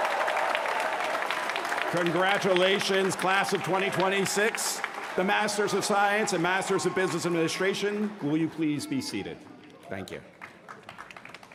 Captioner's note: cheers & applause